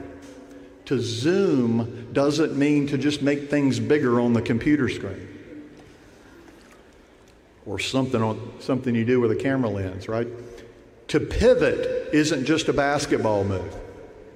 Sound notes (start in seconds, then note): none